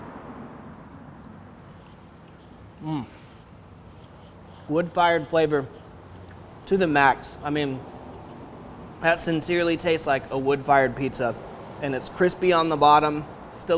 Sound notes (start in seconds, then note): 0.9 heavy traffic passing